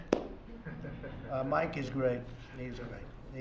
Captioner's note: laughter